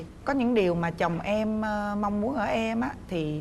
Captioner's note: none